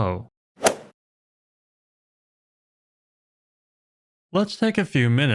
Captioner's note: golf swing sound effect